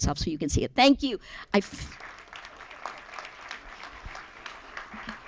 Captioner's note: applause